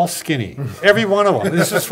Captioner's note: laughing